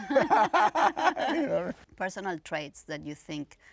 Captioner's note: laughing